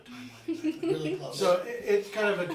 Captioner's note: laughing